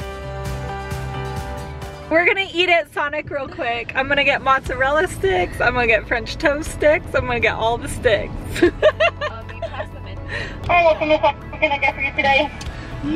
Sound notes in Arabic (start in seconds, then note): 0.2 موسيقى مبهجة; 9.1 الكل يضحك